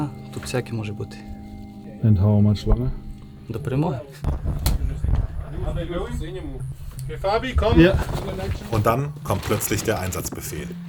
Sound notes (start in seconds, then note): 5.6 babble of voices